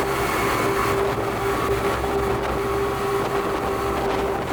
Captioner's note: motor roaring